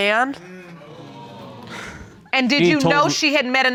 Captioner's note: audience sighs